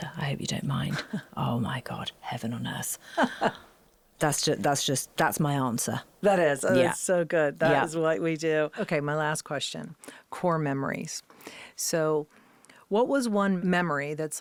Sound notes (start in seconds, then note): 0.9 laughing; 3.0 laughing